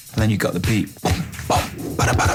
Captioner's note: beatboxing